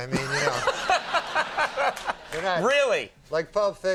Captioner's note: group laughs